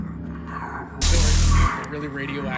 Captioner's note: zapping